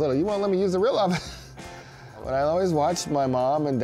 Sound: chuckling

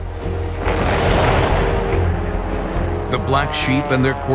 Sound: plane explodes

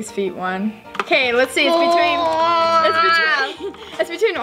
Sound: groans

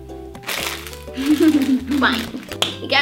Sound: laughs

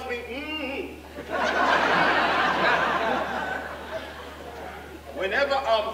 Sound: audience laughing

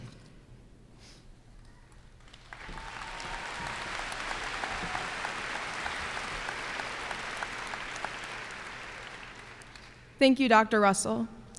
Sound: applause

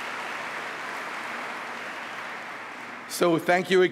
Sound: applause

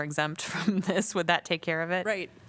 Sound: laughter

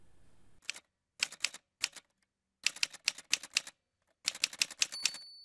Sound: typewriter Sounds

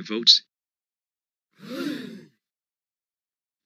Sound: gasp

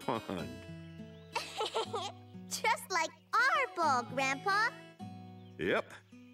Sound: laughing

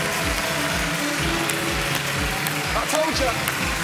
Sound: cheering

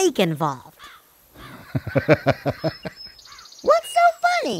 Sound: laughs out loud

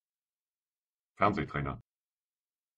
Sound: fast Pronunciation

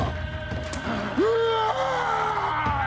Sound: yells

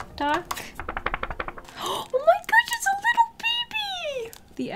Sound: gasp

